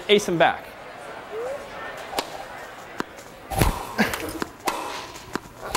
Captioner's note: Wii audio: crowd cheering, rackets hitting tennis balls